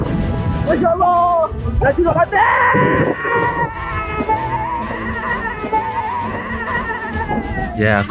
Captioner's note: scream